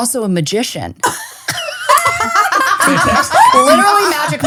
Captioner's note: all laughing